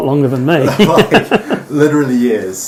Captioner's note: laughing